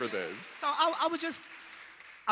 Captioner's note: audience applauding